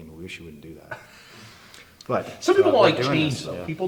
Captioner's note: laughs